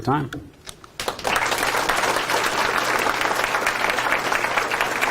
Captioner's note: audience applauding